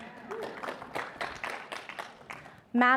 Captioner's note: audience applauding